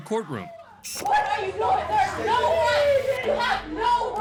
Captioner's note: indistinct chatter, screaming